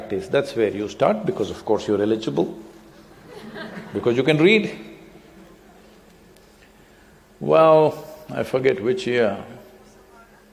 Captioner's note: laughter